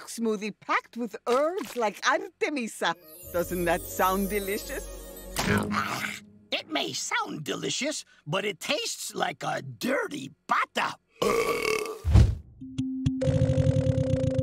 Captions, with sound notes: packed with herbs like artemisia. Doesn't that sound delicious? It may sound delicious, but it tastes like a dirty pata! [belching]